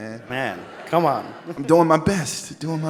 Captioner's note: audience laughs